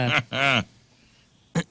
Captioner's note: laughing